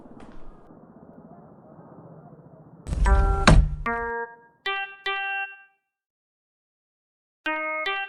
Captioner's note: approaching footsteps; sliding peephole opens